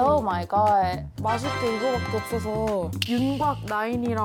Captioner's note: grand presentation sound effect